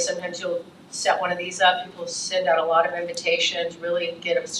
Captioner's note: none